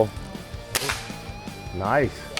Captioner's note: airgun firing